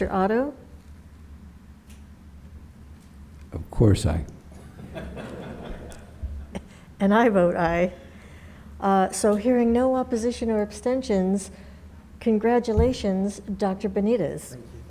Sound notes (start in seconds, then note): 4.6 board members laugh